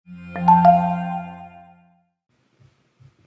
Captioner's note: chiming sound